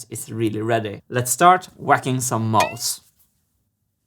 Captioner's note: boing